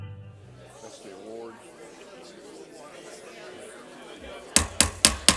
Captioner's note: voices murmuring; gavel banging